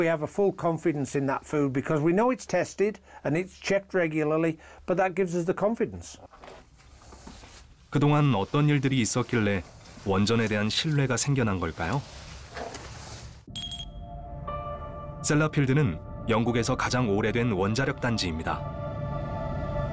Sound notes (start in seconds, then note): 7.0 voiceover